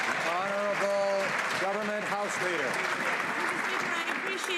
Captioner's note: some Applause